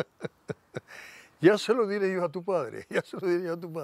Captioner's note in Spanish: Ríe